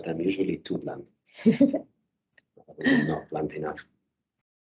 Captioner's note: laughing